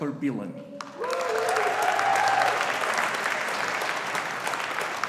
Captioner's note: audience applauding